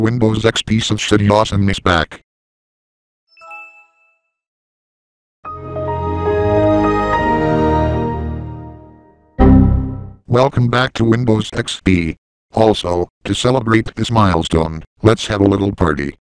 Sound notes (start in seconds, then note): 5.4 Windows XP Startup; 9.4 Windows XP Critical Stop